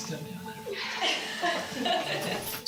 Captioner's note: laughs